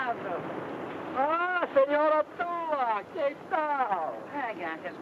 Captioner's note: speaks in foreign language; Tula speaks in foreign language